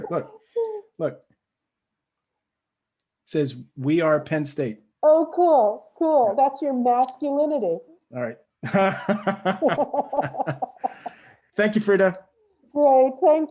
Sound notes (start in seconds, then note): 8.6 both laugh